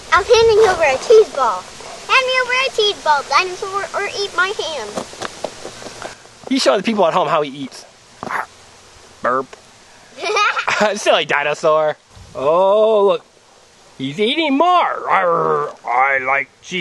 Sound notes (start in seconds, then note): 0.7 voiceover; 6.9 voiceover; 9.8 burp; 10.2 laughing